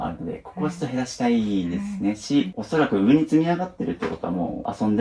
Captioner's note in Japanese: 鼻息